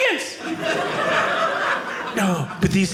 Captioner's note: audience laughing